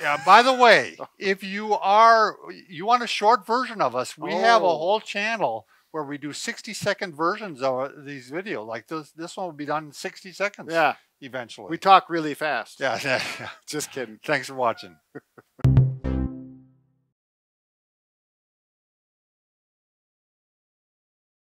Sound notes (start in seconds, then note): 14.3 laughing; 15.6 logo popping